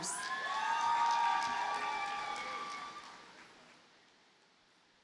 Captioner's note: audience cheers and applauds